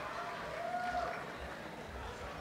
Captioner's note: applause and cheering